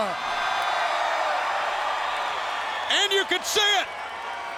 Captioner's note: audience cheering